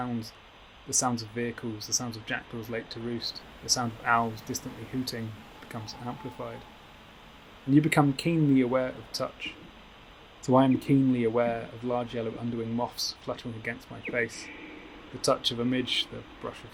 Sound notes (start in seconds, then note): 6.2 tawny owl hoots; 13.7 echoing deep chirping